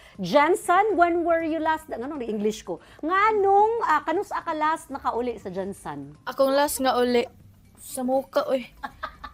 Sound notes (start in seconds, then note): 7.3 laughter